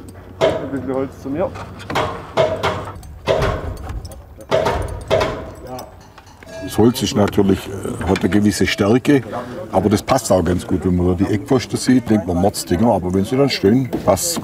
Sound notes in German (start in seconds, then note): 1.6 Klackern